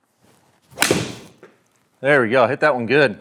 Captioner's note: ball cracking